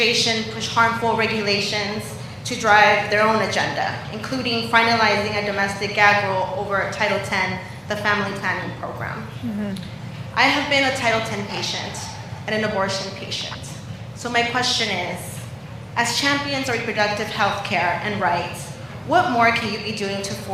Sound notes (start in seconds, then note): none